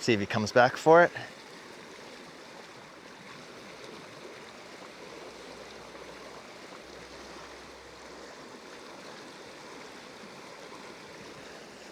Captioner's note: water splashing